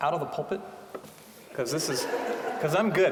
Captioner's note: audience laughing